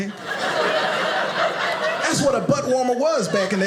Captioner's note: audience laughing